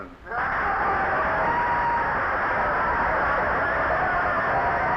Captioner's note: audience cheering